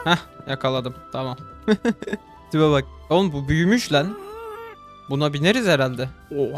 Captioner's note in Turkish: kahkaha